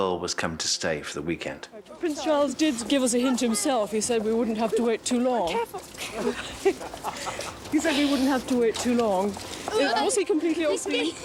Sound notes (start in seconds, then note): 5.4 all laughing